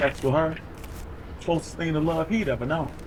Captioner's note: money ruffles